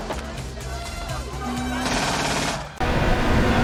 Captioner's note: wood rattling, engine revving; engine revving; machine gun firing